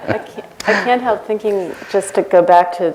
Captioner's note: laughter